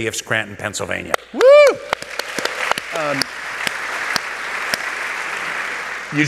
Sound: applause

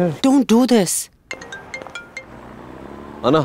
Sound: phone ringing

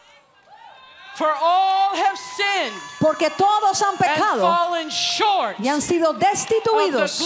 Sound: Spanish

